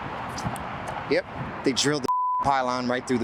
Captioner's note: beep